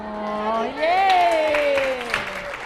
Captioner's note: people applauding